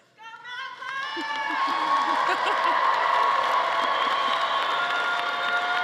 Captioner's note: audience cheering and applauding